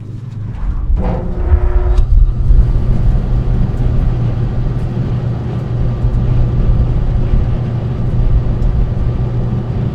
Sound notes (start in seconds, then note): 1.6 air conditioner rumbling